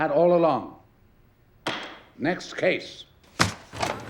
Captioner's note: gavel bangs